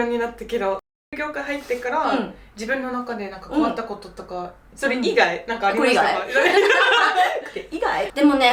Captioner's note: laughs